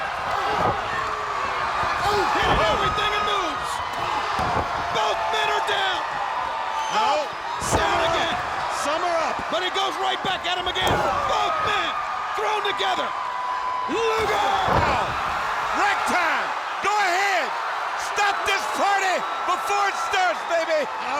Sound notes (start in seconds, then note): 0.1 blows thudding; 0.1 body thudding; 6.2 body thudding; 10.8 body thudding; 13.8 body thudding; 13.8 hands thudding; 16.2 crowd cheering